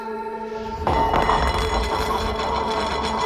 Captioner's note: plate rattling